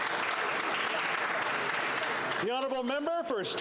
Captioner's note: applause